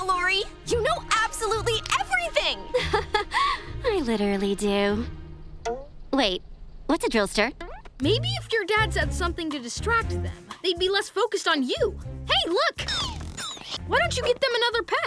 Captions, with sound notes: you know absolutely everything. [chuckles] I literally do. Wait. What's a drillstir? Maybe if your dads had something to distract them, they'd be less focused on you. Hey, look. Why don't you get them another pet?